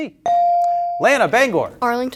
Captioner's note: bell ringing